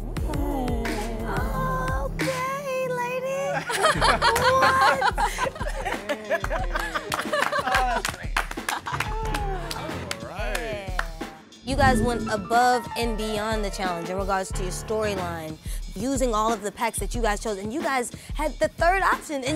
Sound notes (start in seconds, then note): 0.5 oohing; 3.4 laughing; 6.4 applause